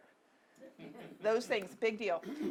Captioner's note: audience laughing